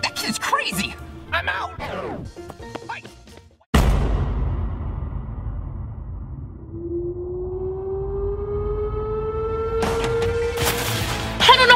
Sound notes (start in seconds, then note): 3.7 thump; 10.8 rock music